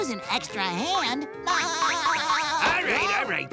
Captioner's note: laughing